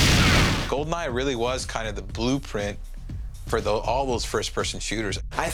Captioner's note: gunfire